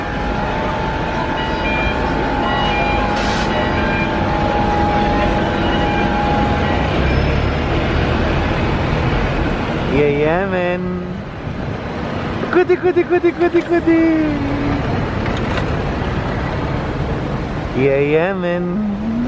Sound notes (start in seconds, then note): 13.0 playful Noises !